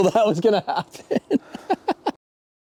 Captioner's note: laughing